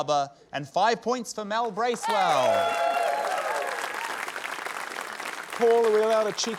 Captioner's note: cheering, applause